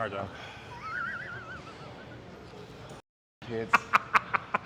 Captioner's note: Ethan laughing